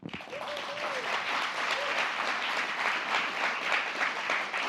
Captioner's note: applause